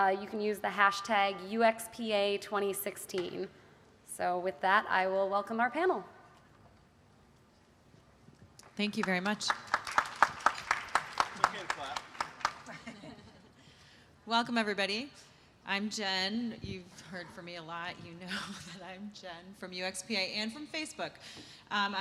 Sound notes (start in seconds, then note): 8.7 applause